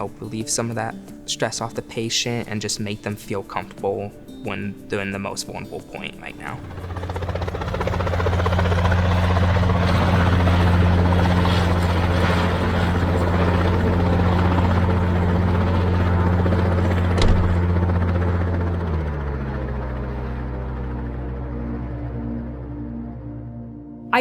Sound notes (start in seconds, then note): 6.7 helicopter whirring; 19.5 ambient music fades in